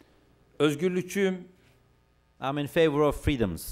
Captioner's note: non-english speech